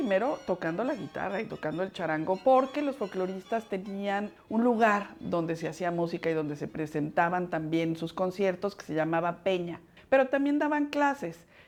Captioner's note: speaking Spanish